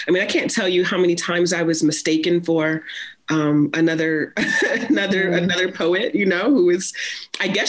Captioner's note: chuckles